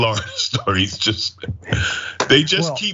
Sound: laugh

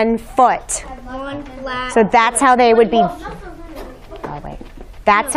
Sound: whispering

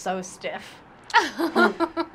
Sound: laughter

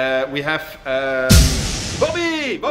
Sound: poof!

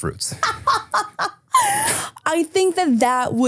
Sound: laughing

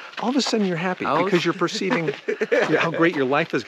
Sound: laughs

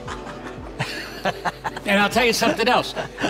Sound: laughing

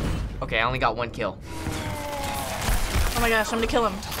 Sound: in game: grunting

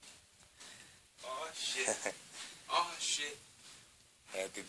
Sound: sound of walking

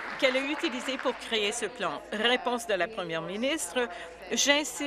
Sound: applause

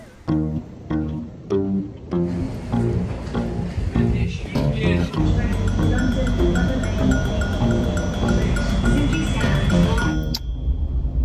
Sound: playful sound

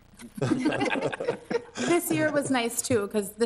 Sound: members laugh

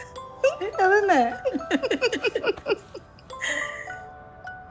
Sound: both laugh

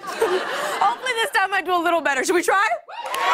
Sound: cheers and applause

